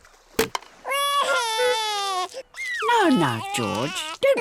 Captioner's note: wailing